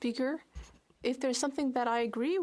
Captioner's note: speaking French